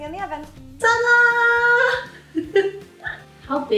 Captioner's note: laughs